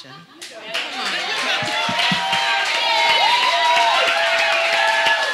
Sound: audience applauding

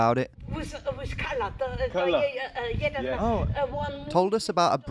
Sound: speaking foreign language

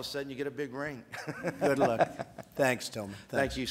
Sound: laughs

